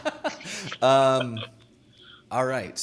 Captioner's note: laughing